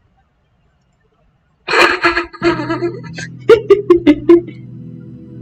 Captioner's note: laughter